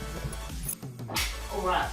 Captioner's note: clap